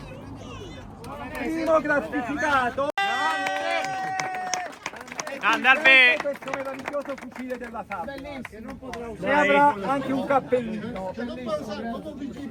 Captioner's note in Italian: Applauso